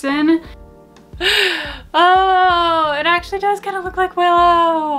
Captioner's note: gasps